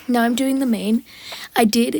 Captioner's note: breath